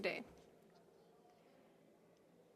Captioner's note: speaking French